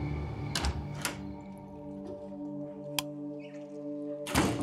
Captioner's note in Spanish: ruido de la puerta